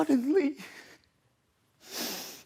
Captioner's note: soft breathing